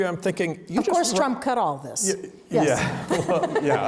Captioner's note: laughs